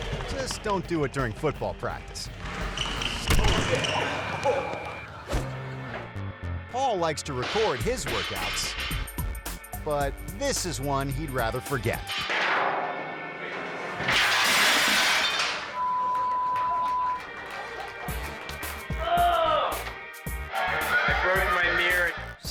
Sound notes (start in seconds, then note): 14.0 mirror shattering; 15.7 beep; 19.0 groaning